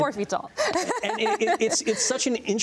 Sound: laughs

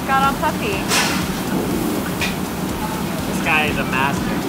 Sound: oil frying

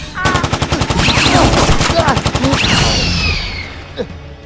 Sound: shots fired

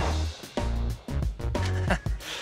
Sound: gunshots; funky music

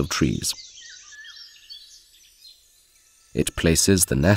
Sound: sounds of nature

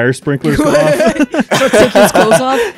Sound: laughs; cackles

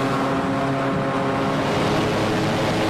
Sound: engine roars

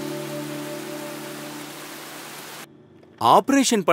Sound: rain sound

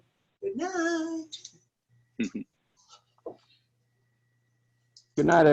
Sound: laughter

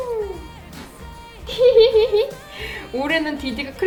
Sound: laugh

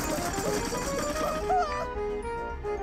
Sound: gumball machine rattling; playful music

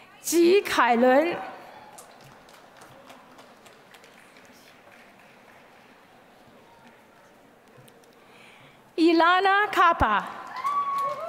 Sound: applause; applause

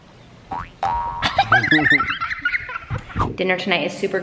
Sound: loud giggles

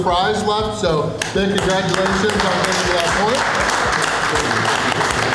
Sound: clapping

